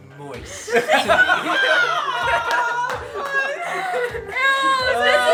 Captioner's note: family laughing